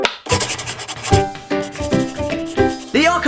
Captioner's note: ukulele music; pencil writing